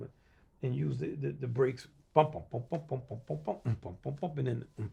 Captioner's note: imitating tuba sounds